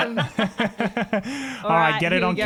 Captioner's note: laughter